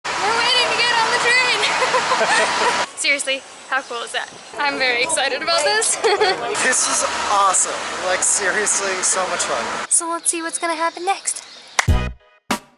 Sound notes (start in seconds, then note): 1.6 laughter